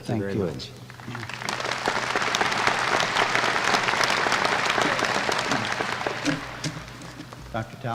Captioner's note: applause